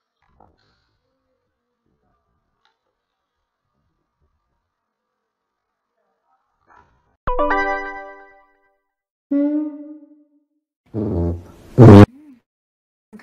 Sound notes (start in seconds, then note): 7.3 the sound of ytp+ rendering complete; 9.3 low cuica noise; 10.9 aggressive farting